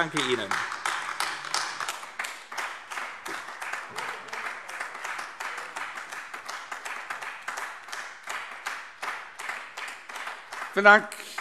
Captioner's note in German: Anhaltender Beifall AfD